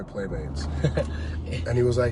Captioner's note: laughs